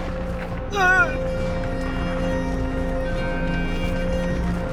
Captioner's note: groans painfully